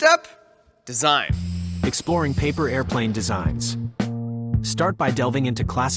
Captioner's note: spray paint hiss